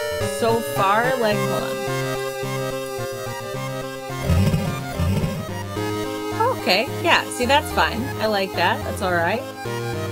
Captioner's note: game sounds; game volume goes down